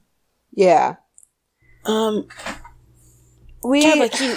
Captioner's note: sighs